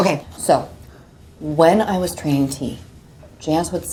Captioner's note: none